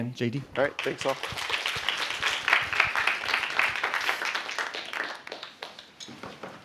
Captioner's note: applause